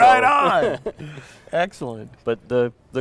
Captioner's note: laughter